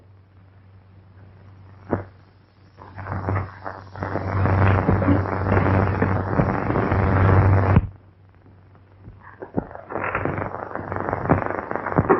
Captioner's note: pounding